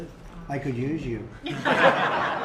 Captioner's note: laughter